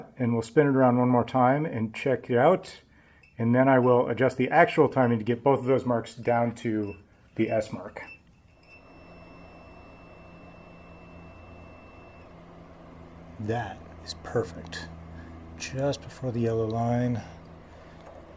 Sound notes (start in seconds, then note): 9.2 beeping; 12.4 beeping stops